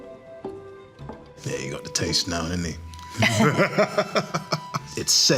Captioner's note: laughing